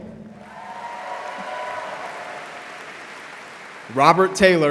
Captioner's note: audience applauding